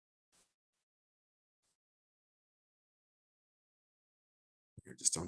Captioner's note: muted